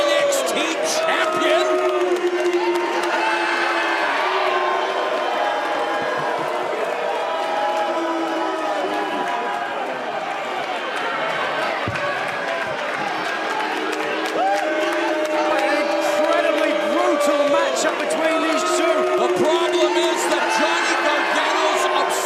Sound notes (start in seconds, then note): 6.4 cheers and boos